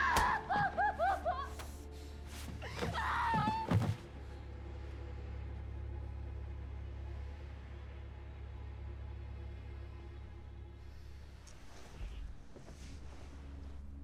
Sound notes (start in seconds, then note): 0.1 thud; 2.3 body clunks